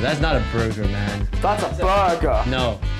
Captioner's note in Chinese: 伪英国口音